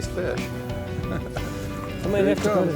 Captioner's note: laughs